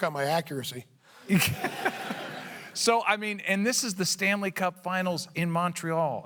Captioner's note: laughter